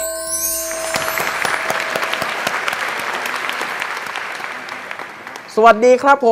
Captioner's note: clapping sound